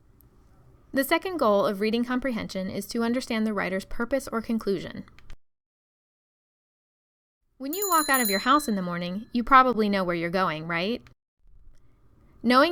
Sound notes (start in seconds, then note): 4.8 bicycle bell